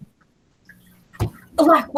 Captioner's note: thud